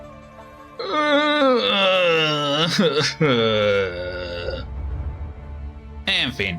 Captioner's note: despair noises